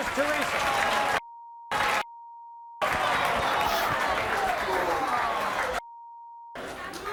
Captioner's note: audience cheers; beep